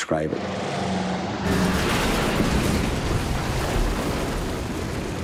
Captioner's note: plane crashing